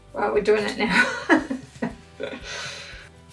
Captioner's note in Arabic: يضحك